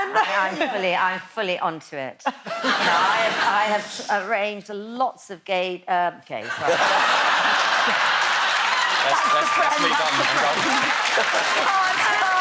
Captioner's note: laughs